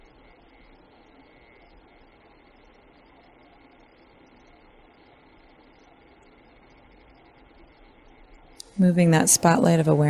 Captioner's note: silence